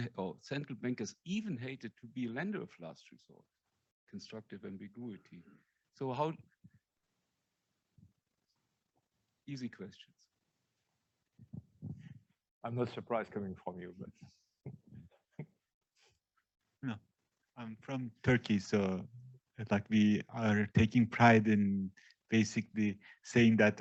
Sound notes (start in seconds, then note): 15.3 laughs